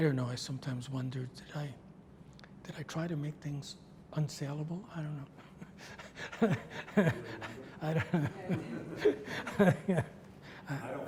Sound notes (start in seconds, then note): 5.8 laughs; 9.4 audience laughs